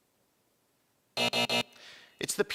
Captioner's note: buzzing